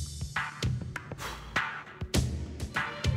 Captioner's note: sighs